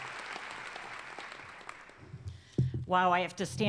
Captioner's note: applause